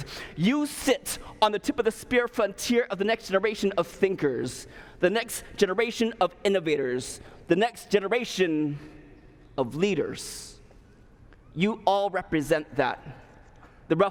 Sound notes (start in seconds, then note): none